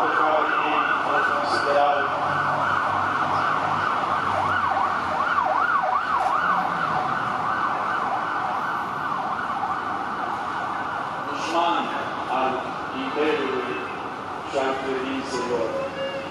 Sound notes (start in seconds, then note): 2.3 pause: very loud sirens